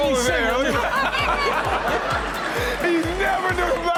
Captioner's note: all laughing; laughing